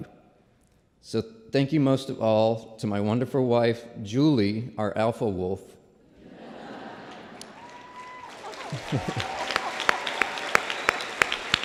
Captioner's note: laughter and applause